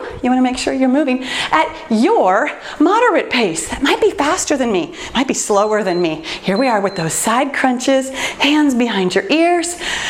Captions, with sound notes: you want to make sure you're moving at your moderate pace. Might be faster than me, might be slower than me. [timer beeps] Here we are with those side crunches, hands behind your ears.